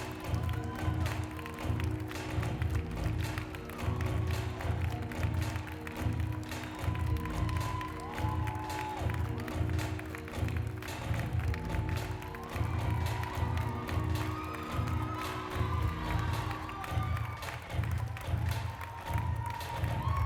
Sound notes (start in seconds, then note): 0.0 applause; 20.0 applause